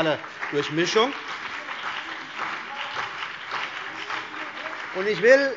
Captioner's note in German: Beifall